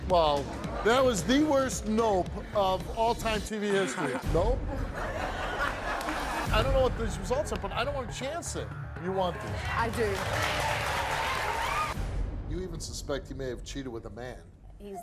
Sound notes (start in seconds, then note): 5.2 audience laughs; 9.3 audience applauds